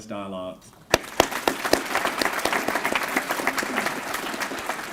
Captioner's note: applause